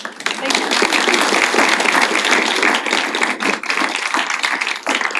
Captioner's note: applause